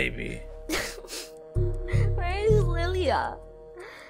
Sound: starts crying

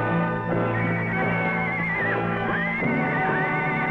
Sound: Champ neighing

